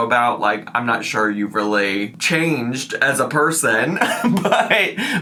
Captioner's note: chuckles